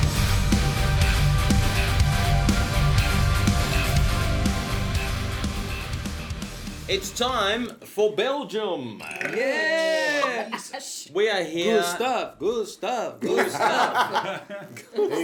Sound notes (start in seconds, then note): 8.9 belches Yay; 9.4 laughing; 12.0 chanting; 13.2 laughing; 13.6 chanting